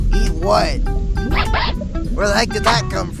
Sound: eyes squeak

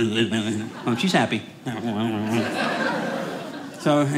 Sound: audience laughing

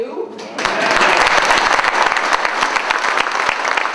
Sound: applause

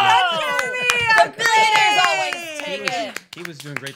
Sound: clapping

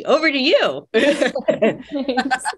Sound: panelists laughing

